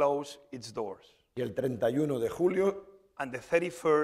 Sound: speaking spanish

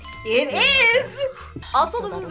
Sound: bell dings

